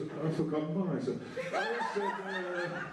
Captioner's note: laughter